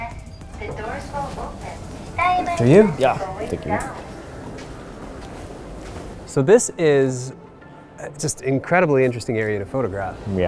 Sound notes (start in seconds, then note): 0.8 elevator Voice